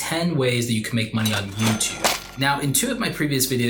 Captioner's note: cash register dings